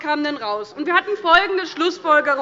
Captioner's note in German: Zurufe von der SPD